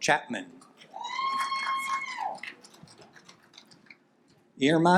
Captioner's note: audience applaud